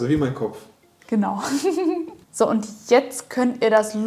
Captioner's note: laughing